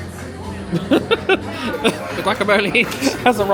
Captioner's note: laughs